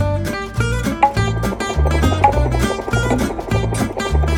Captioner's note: helicopter sound effect with kids keyboard